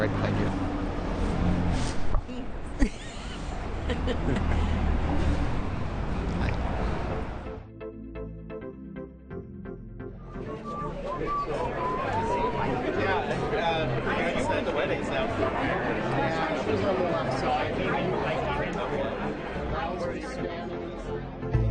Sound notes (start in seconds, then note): 3.7 Mike's mom laughs; 8.2 progressive music